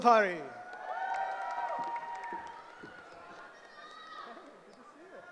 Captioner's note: cheering